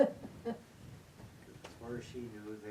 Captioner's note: attendee laughing